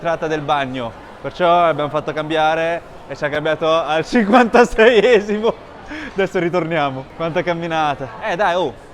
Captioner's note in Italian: risate